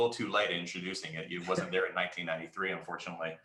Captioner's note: chuckles